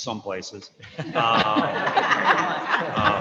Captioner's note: chuckling